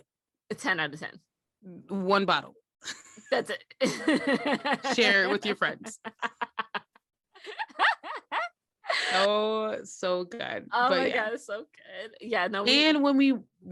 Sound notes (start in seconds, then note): 2.8 laughter; 5.8 laughter continues